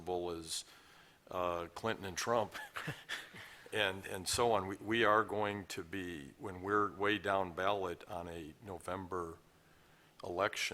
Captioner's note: laughter